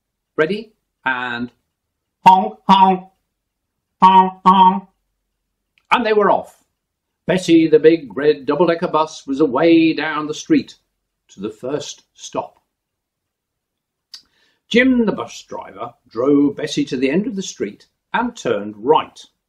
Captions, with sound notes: Ready? And [honk honk]. And they were off! Bessie, the big red double decker bus was away down the street to the first stop. Jim the bus driver drove Bessie to the end of the street and turned right.